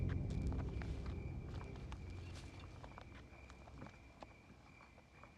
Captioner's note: footsteps on gravel